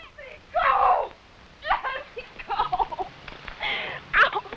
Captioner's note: cries